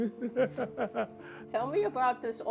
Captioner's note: laughs